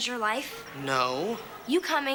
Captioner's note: petulantly